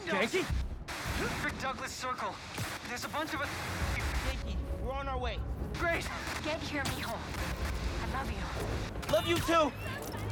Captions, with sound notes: Ganke? Frederick Douglas Circle. There’s a bunch of us... (static) Ganke, we’re on our way! Great! Get here Mijo. I love you. Love you too.